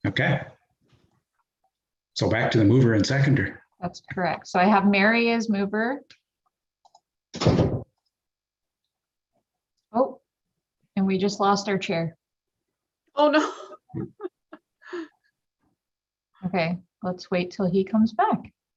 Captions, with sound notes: - Okay. So, back to the mover and seconder. - That's correct. So, I have Mary mover. Oh, and we just lost our Chair. - Oh, no. (chuckles) - Okay, let's wait till he comes back.